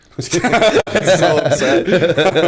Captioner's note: laughter